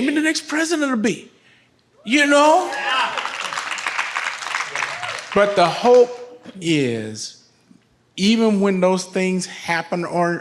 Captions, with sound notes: Maybe the next president will be, you know? - Yeah! (audience applauds) - But the hope is even when those things happen or not,